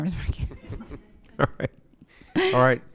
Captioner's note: chuckles